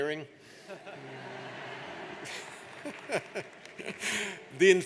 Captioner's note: audience laughs